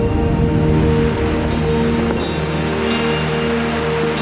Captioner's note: waterfall charging